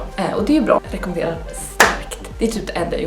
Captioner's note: clap